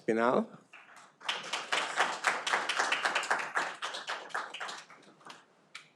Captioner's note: audience applauding